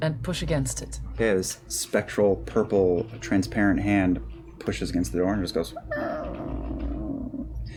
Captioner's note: creak